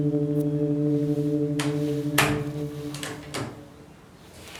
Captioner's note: door shuts